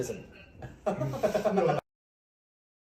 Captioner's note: laughs